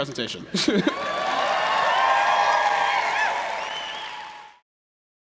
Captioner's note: applause